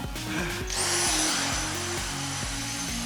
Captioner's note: vacuum whirrs; sighs